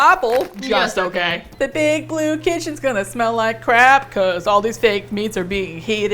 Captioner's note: singsong